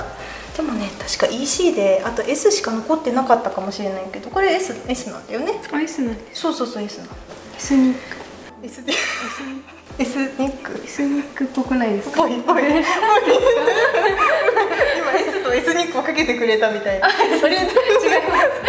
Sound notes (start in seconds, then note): 12.2 laughs